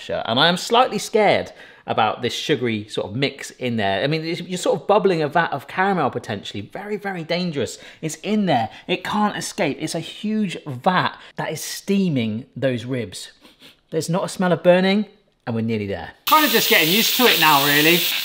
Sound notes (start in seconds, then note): 13.4 sniffs